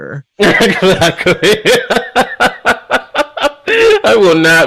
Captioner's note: laughs